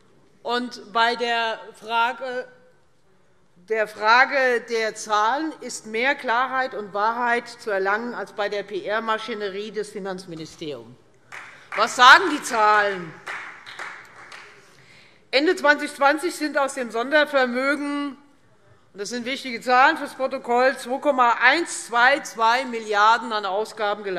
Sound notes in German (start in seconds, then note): 11.3 Beifall Freie Demokraten